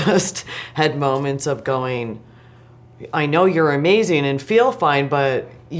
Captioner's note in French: rires